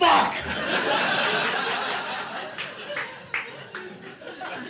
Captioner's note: audience laughing